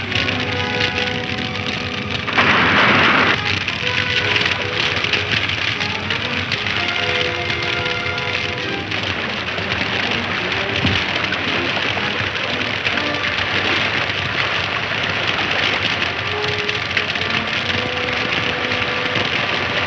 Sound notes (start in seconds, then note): 2.5 crashing; 4.7 fire crackling